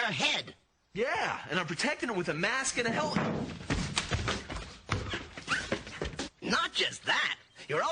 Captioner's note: thumping